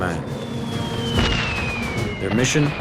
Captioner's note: bombs explode